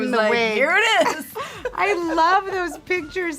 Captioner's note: Charlize laughs